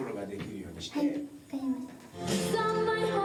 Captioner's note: speaking in foreign language